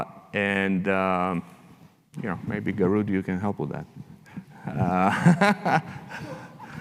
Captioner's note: laughs